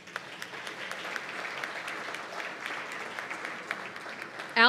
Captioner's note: applause